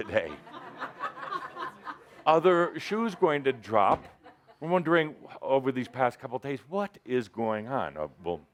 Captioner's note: laughter